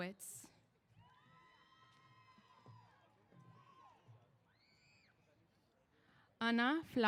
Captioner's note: cheers